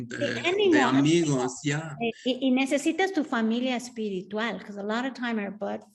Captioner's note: speaking Spanish; Sandra speaking Spanish